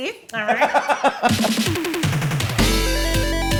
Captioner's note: laughing; upbeat music